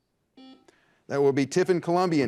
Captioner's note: buzzer buzzes